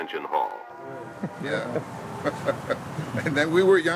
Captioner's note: man chuckling